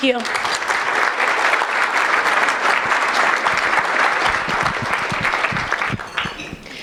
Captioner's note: applause